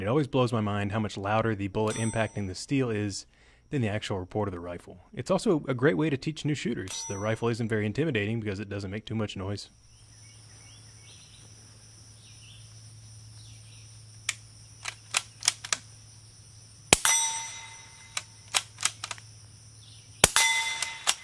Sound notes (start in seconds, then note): 10.7 birds chirping; 14.9 gun loading and metal ping; 18.2 gun reloading and metal ping